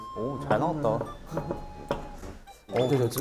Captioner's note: knock knock